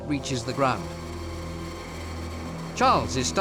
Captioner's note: buzzing